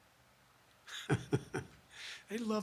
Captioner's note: laughs